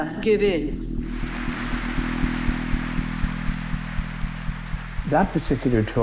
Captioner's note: parliament applauds